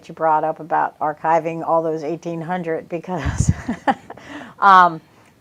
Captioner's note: chuckles